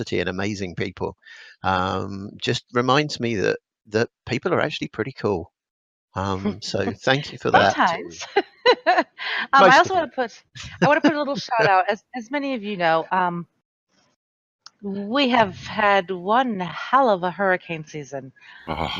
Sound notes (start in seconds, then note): 8.6 laughs